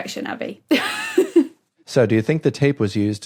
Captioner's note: giggles